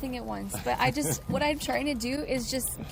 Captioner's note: laughs